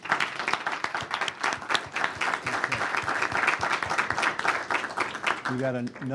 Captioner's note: clapping